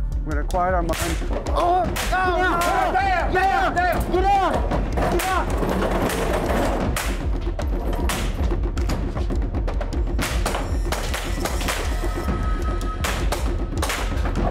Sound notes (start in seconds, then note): 0.9 gunshots; 6.9 gunshots; 8.8 intense music; 11.4 gunshots